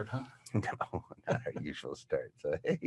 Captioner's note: laughs